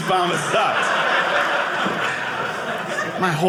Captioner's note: audience laughing